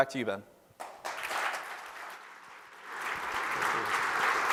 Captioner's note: applause